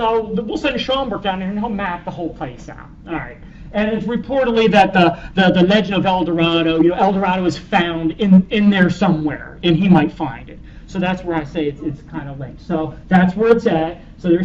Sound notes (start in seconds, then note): none